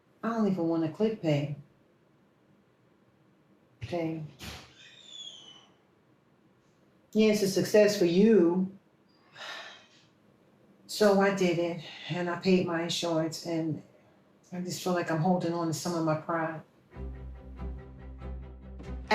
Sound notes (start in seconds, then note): 9.7 sighs